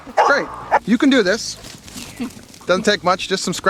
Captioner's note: woman chuckling